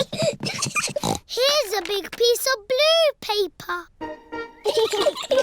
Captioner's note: snorts; both giggling